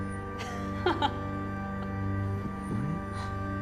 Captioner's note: Gabriella laughs